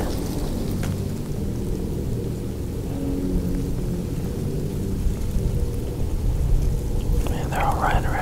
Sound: light wind

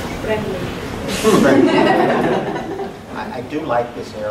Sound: lachen

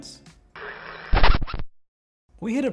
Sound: record scratching

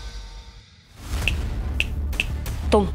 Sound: snaps fingers

